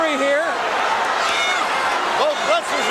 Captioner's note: audience cheering